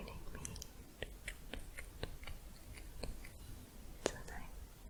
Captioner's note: tongue clicking